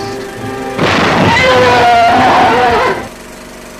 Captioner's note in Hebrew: זעקה של ממותה